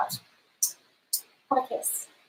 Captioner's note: lips smack